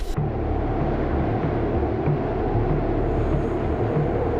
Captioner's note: loud wind